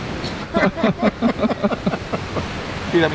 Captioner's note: everyone laughs